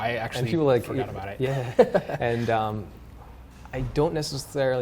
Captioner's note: laughs